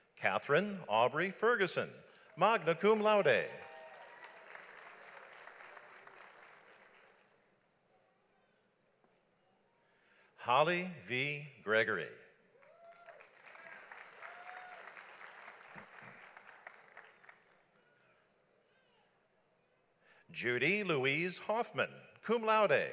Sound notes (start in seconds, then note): 3.6 audience applauds; 12.6 audience applauds